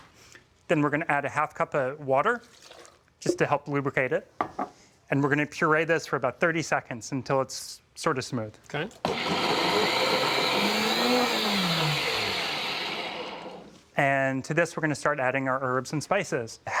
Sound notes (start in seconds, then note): 9.0 blender whirring; 12.0 whirring stops